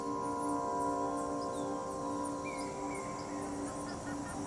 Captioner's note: birds chirping